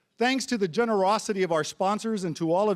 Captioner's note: none